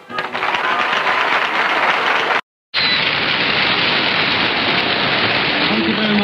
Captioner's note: cheers and applause